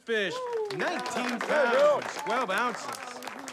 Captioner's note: applause